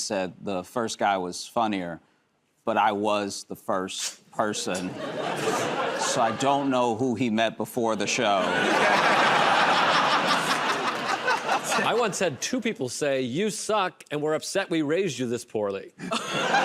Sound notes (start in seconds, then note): 4.6 laughter; 8.1 laughter and applause